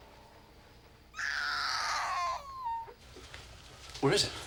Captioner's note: baby crying